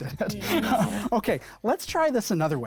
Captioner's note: laughing; group murmuring